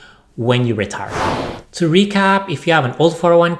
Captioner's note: air whooshing